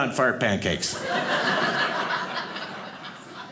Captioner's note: audience laughing